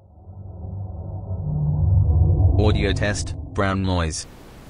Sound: eerie ethereal transitional SFX

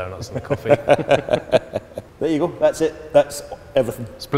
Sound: laughters

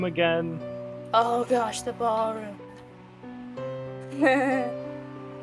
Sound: nervous laugh

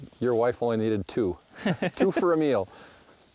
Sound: laughs

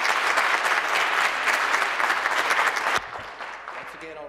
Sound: applause

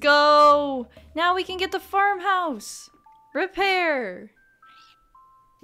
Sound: squawk

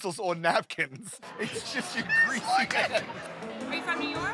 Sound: laughing

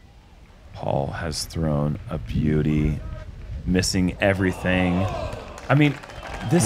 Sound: cheering

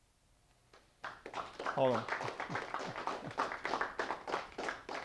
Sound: audience applause

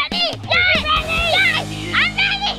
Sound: screaming

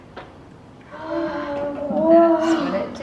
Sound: gasps of wonder

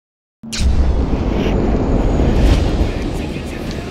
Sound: intense flame burning

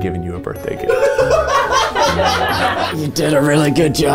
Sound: laughing

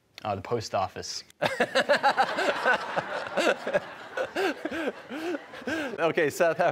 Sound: laughter

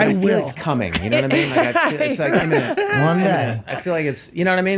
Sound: all laughing

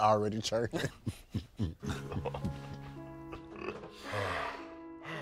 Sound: farting; laughs; mournful music

